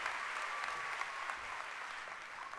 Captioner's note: cheering and applause